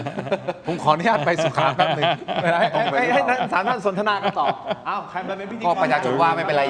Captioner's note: laughs; laughs